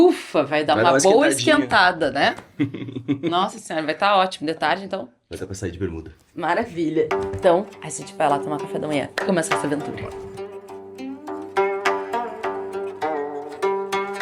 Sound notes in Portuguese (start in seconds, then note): 2.4 risadas